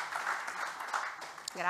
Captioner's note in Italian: Applauso